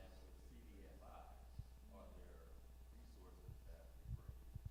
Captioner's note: male audience member speaking